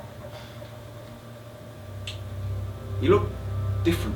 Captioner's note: SFX Voice over ends. Drone Starts